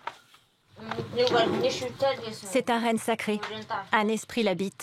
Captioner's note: foreign spoken audio